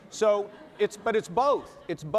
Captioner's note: laughter